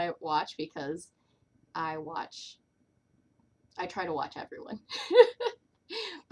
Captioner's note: laughter